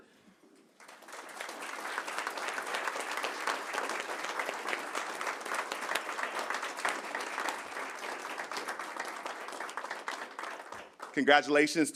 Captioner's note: applause